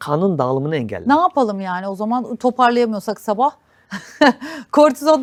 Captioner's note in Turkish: kahkaha